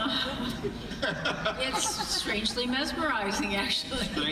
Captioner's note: laughing